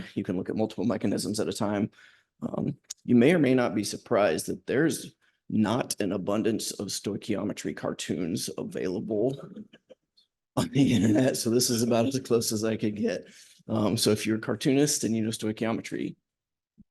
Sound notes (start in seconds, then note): 9.0 laughter